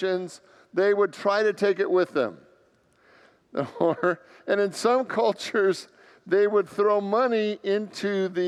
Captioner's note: laughs